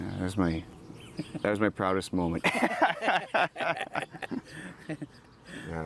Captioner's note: laughs